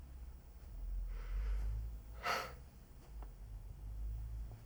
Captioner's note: exhales sharply